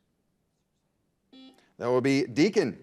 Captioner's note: buzzer buzzes